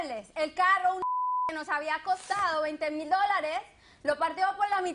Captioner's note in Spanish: Bip